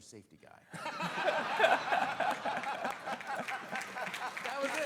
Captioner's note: all laughing